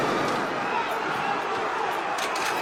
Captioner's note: crowd screaming